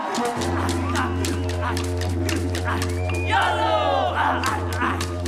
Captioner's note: cheering and applause